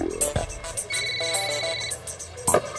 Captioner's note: cell phone ringing